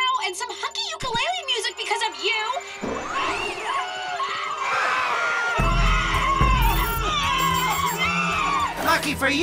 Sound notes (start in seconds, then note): 2.5 terrified screaming